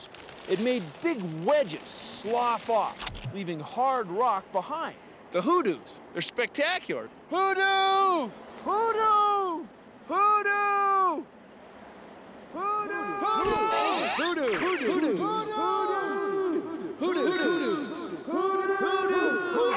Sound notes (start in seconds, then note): 12.2 echoing